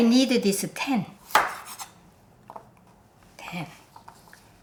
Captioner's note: knife thudding